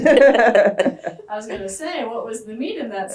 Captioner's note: laughter